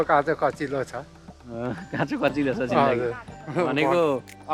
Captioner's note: chuckles